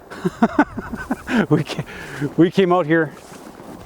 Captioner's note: laughs